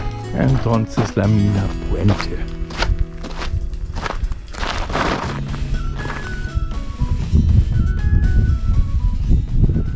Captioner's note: steps